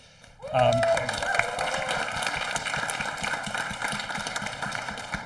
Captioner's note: audience applauding